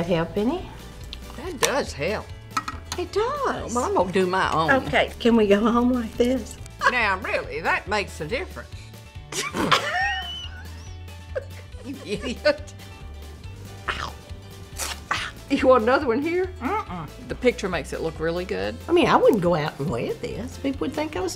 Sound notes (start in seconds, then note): 9.3 laughs